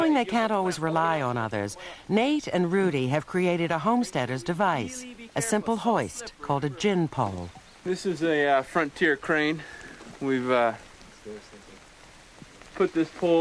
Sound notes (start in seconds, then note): none